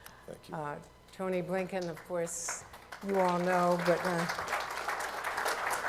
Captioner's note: applause